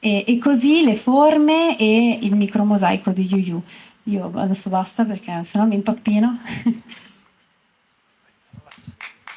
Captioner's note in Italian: Applauso